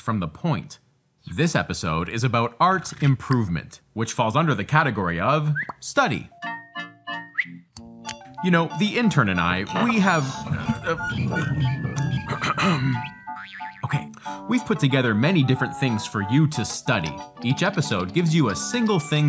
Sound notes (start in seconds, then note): 12.0 ahem